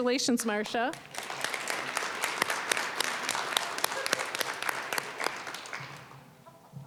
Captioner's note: applause